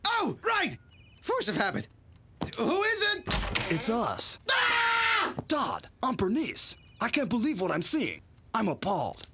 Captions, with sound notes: Oh. Right. Force of habit. Who is it? It's us. ( both screaming ) Dad, Aunt Bernice, I can't believe what I'm seeing. I'm appalled.